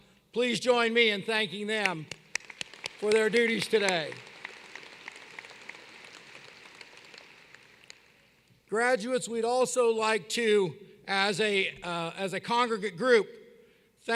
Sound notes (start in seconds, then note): 5.4 applause